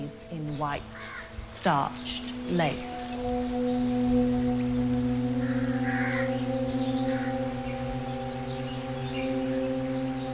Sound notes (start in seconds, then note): 4.5 birdsong